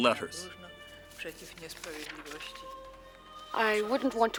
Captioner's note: reading in foreign language